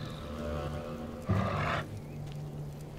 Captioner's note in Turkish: Şaman bağırıyor